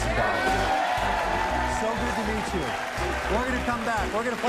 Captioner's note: cheers and applause